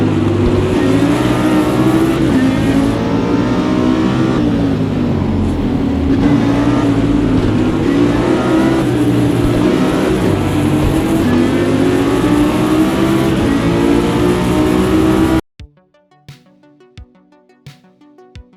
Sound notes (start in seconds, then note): 8.1 engine revving; 15.1 upbeat music